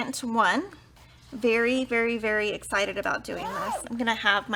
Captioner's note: zipper vibrates